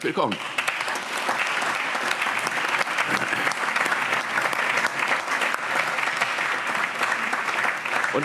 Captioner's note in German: Allgemeiner Beifall